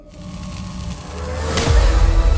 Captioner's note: searing sizzle; tense music